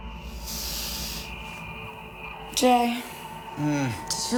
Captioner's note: inhales sharply